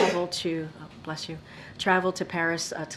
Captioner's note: a reporter sneezes